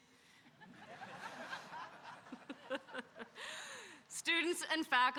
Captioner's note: audience laughing